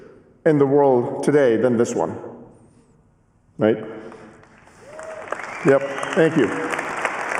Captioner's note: cheering and applause